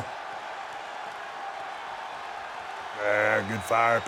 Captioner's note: audience cheering